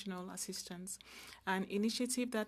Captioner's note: speaking French